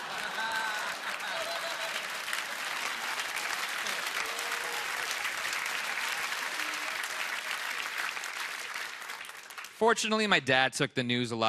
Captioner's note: laughter